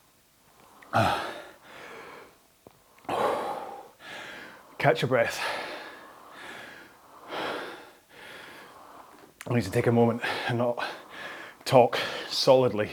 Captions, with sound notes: Ah. (exhales) Catch your breath. I need to take a moment and not talk solidly